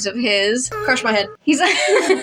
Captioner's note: laugh; silly Moan